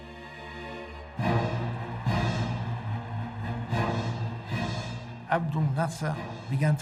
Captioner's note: suspenseful music; crowd shouting